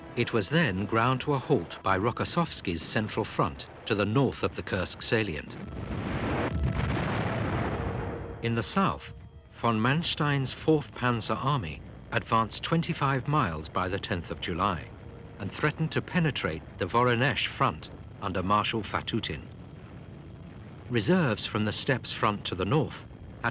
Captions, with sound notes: It was then ground to a halt by Rokossovsky's Central Front, to the north of the Kursk salient. (explosions booming) In the south, von Manstein's 4th Panzer Army advanced 25 miles by the 10th of July, and threatened to penetrate the Voronezh Front, under Marshal Fatutin. Reserves from the Steppes Front to the north,